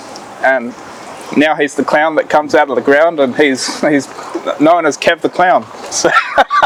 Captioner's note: laughing